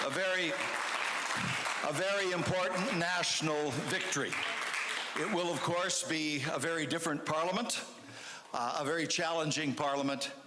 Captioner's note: cheers/Applause